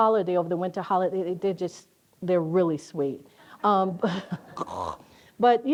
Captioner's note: disgusted noise